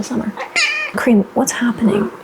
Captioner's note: yelling from my cat